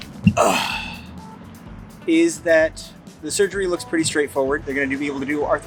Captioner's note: grunt